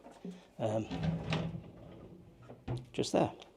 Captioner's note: drawer rattles